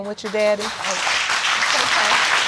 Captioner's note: audience clapping